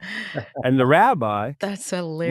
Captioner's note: laughing